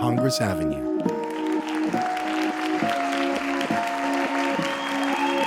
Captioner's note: crowd clapping and cheering